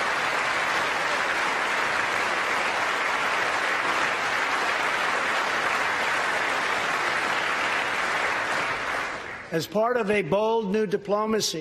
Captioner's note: applause